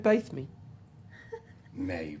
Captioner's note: whimpers